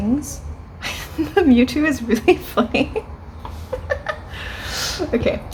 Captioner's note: laughs